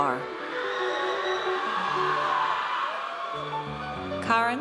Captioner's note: audience cheers